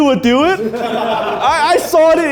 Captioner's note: men laughing